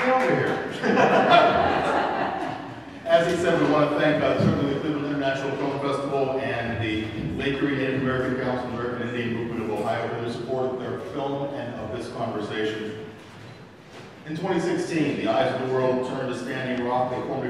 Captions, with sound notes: Get over here. (audience laughs) As he said, we want to thank certainly Cleveland International Film Festival and the Lake Erie Native American Council American Indian Movement of Ohio for their support for the film of this conversation. In 2016, the eyes of the world turned to Standing Rock,